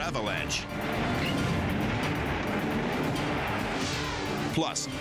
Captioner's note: avalanche roaring